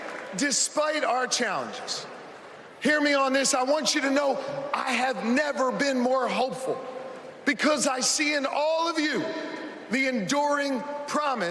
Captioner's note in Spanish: Vitores